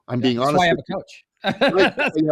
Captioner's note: laughing